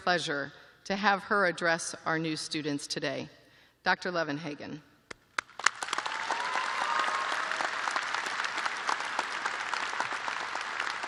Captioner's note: applause